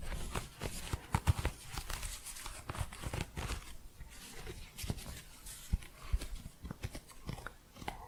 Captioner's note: crunchy scratching